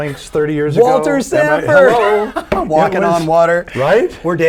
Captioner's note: laughing